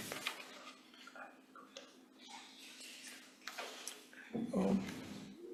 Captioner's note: indistinct conversation